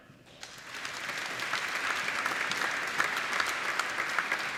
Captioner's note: applauding